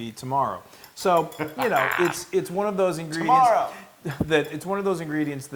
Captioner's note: laugh